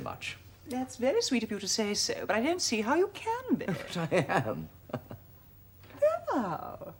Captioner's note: RICHARD, laughing